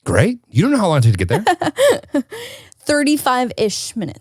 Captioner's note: laughs